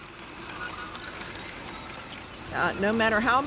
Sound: tiny clacking

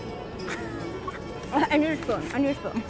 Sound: laughing

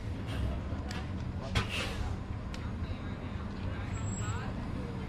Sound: bus engine rumbles

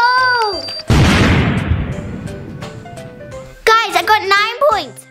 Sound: bomb explodes

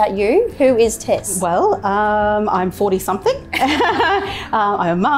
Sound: laughs

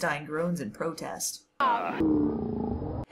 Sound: Mitch groans like Frankenstein; groan slowed down

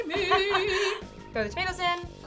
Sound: laughs

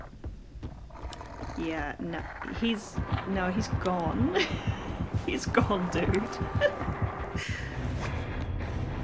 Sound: laughs

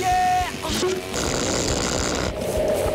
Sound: zapping

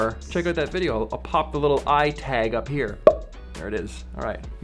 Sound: pop

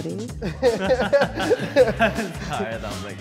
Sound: laughs

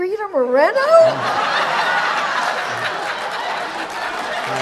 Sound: audience laughs

